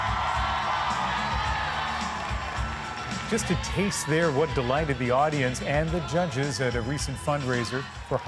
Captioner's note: cheers and applause